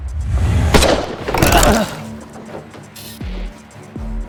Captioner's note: gun fires